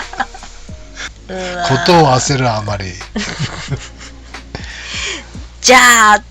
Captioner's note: laughs